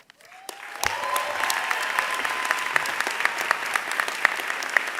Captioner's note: thunderous applause